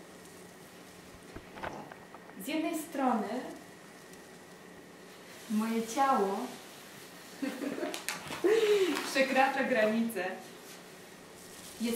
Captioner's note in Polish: śmiech